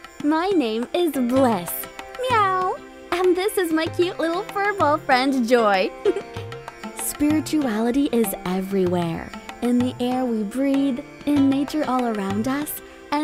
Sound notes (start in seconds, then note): 5.9 giggling